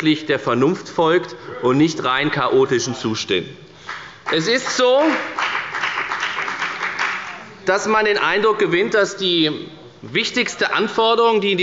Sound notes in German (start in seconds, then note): 3.8 Beifall bei der FDP